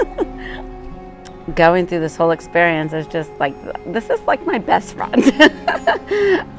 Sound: giggle; giggle

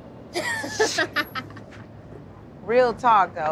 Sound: laughter

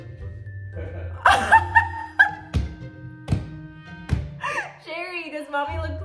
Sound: laugh

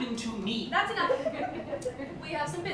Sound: laughter

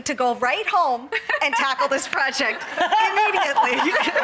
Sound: laughing

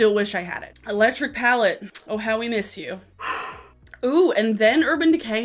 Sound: sighing

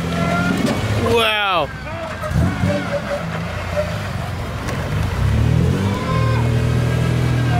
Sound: engine revving; tires squealing; yells

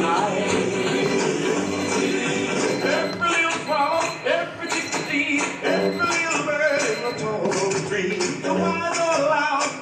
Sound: timer going off

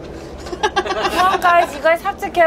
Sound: laughing

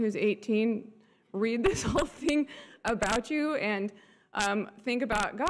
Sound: laughs

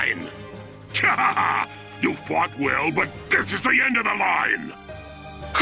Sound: evil laugh; evil laugh

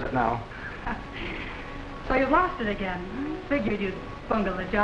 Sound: laughing

